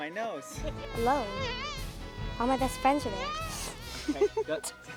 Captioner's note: buzzing